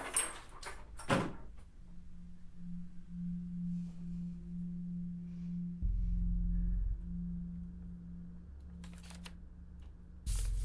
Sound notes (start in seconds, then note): 0.6 door thuds; 1.6 tense ambient music